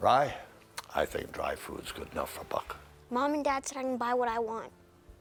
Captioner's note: none